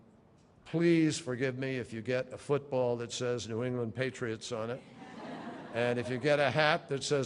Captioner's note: laughter